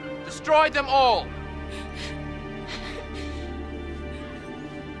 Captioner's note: gasping